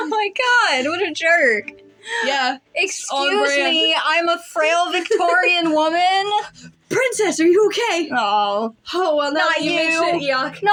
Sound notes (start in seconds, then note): 2.2 inhale; 4.9 laugh